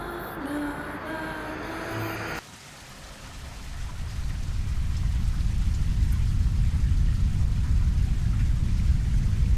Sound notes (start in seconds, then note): 2.4 water splashes